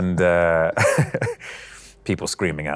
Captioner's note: laughter